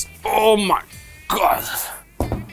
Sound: grunts

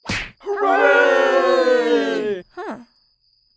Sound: ponies cheer

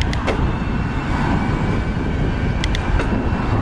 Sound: gears clicking; wind gushing; gears clicking

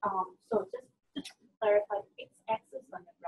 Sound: voiceover

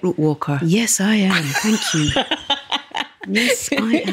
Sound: laughs

